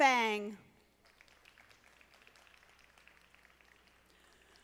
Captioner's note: audience applauding